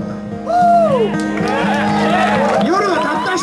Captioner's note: audience cheers